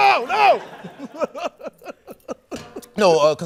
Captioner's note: laughter